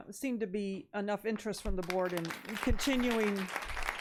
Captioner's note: audience applauding